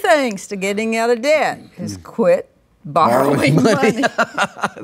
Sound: both Laugh

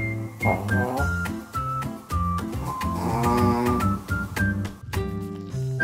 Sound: loud snores

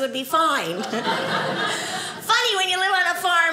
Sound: audience laughing

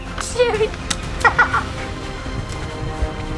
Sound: laughing

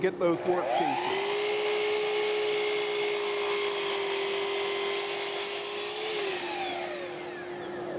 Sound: saw revving

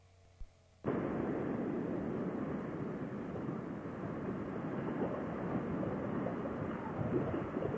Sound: silence; wind and road noise

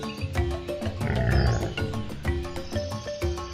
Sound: dinosaur growling

